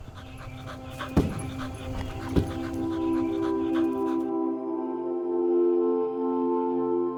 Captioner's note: gentle music; ball thuds